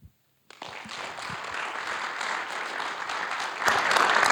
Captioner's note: audience applauding